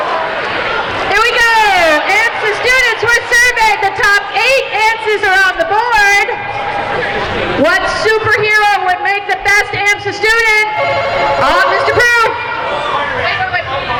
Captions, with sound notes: Here we go. AMSA students were surveyed. The top eight answers are on the board. What super hero would make the best AMSA student? (buzzing) Mr. Proulx!